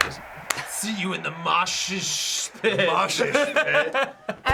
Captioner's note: laughs